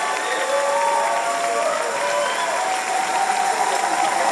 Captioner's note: applause and cheers